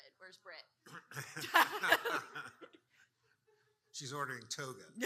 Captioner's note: audience laughing